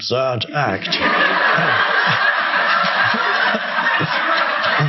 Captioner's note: audience laughing